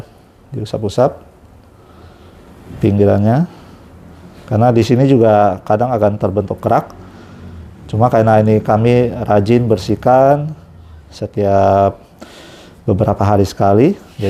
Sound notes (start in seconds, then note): none